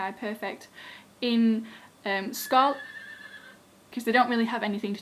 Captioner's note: neighing sound